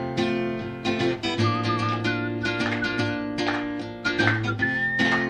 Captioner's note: whistling and clapping